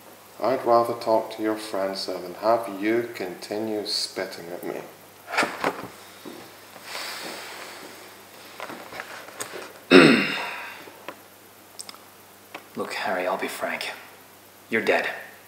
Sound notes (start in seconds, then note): 9.9 Billy clears throat